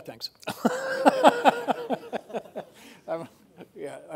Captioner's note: laughing